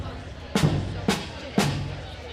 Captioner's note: none